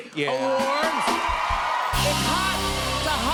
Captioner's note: cheers and applause